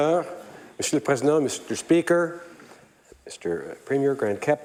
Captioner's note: speaking French